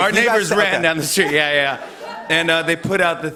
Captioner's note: laughter